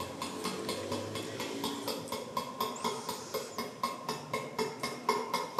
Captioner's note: tapping